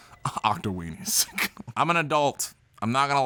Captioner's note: laughs